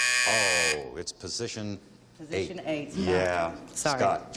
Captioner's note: buzzer